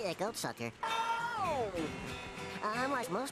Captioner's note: wailing